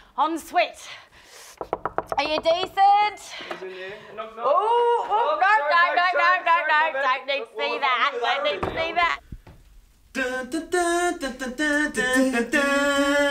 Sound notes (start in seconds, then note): 1.6 knocks; 10.2 all humming